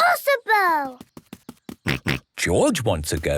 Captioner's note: snorts